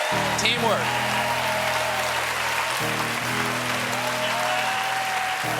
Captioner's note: cheers and applause; piano riff